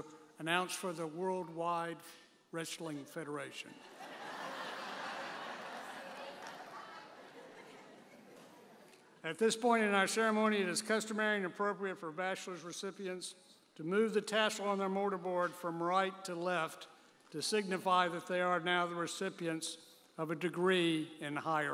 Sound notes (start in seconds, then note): 3.8 audience laughing